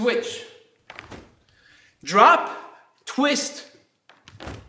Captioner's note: snapping